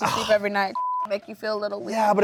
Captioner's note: beep